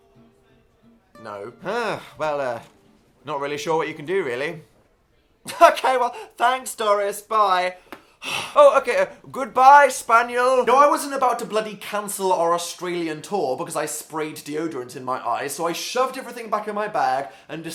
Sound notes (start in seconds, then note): 8.2 sigh